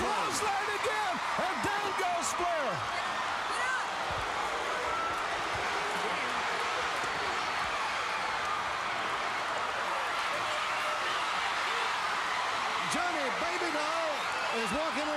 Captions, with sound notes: >> OH, CLOTHESLINE AGAIN, AND DOWN GOES FLAIR. >> [CROWD CHEERING] >> TONY, BABY DOLL IS WALKING